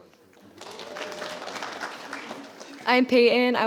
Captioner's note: audience applauding